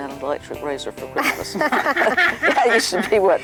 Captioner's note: laughing